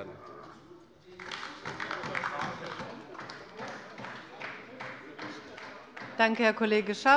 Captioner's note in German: Beifall bei der LINKEN